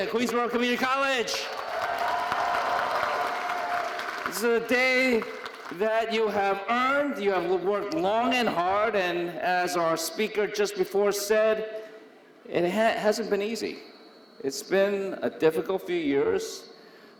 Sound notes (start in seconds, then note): 1.2 audience applauding